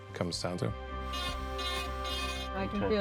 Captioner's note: drill buzzes